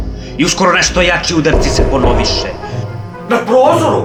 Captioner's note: knocking